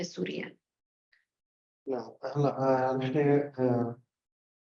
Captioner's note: speaking arabic